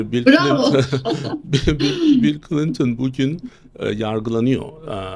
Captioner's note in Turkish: kahkaha